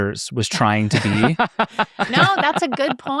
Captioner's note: participants laughing